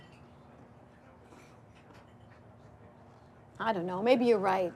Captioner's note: people chattering